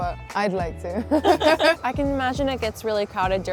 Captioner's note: both laughing